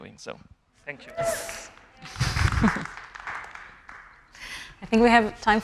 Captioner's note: audience applauding; chuckling